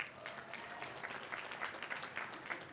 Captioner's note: applause